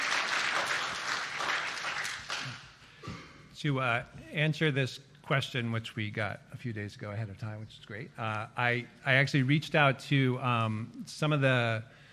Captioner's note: applause